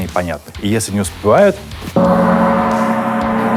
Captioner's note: sounds the gong